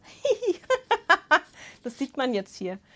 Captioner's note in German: Gelächter